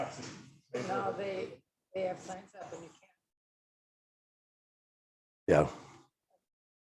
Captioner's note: faintly speaking